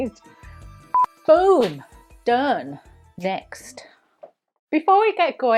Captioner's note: signal beeps; hands slap